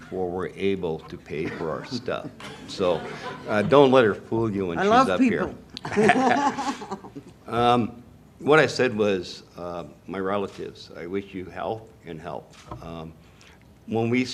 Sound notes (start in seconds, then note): 5.8 laughter